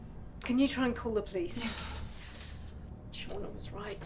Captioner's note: Lorena groans